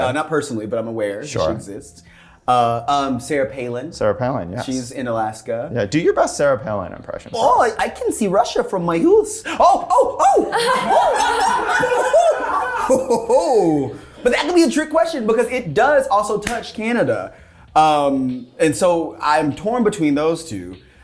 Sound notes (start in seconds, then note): 10.2 cast laughing